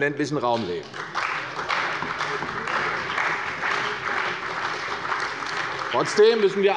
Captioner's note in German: Beifall bei der CDU und dem BÜNDNIS 90/DIE GRÜNEN